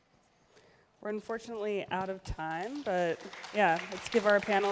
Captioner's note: applause